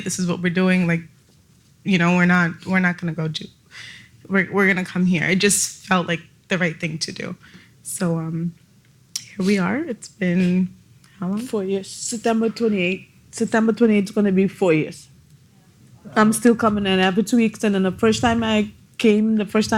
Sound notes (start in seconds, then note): none